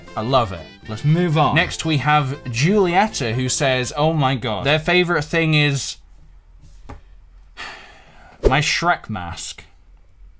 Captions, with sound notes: I love it, let's move on. Next we have Julietta who says- oh my god. Their favorite thing is... *sigh* My Shrek mask.